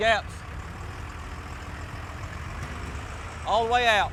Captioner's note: truck engine rumbling